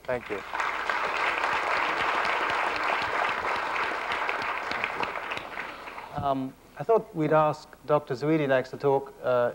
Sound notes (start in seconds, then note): 0.0 applause